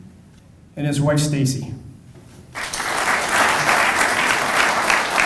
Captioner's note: audience applauding